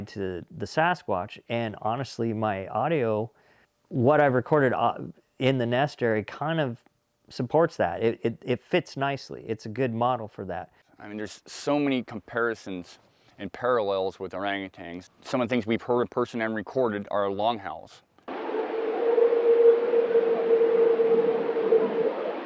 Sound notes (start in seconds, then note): 18.3 animal howling